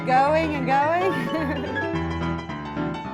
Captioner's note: laughs